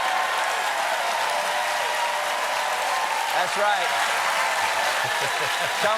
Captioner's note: cheers and applause